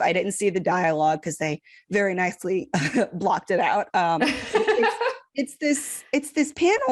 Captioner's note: laughs